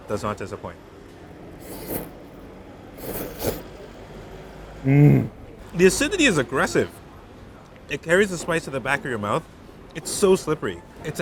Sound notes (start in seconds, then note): 1.5 slurping